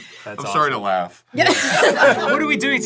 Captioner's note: laughs